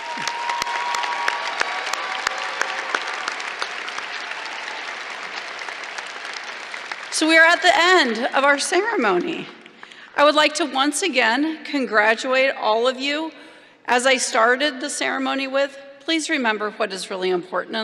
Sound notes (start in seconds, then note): 7.5 applause